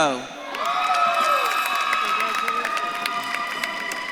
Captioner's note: audience claps and cheers